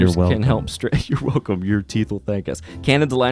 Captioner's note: laughs